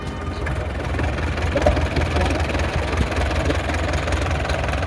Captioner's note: tractor engine